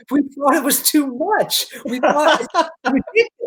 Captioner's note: laughing